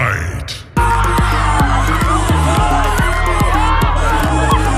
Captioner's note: people yell